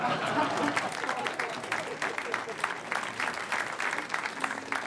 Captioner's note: all laughing; all applauding